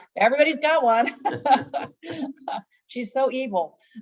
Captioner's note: both laugh